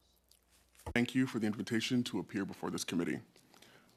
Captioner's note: speaking French